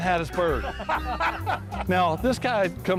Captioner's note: laughter